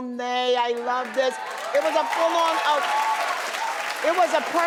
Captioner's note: crowd drowns out